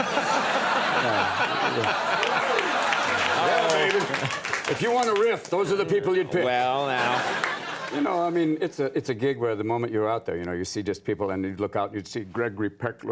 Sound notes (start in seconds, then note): 0.0 audience and Conan laugh; 7.3 audience laughs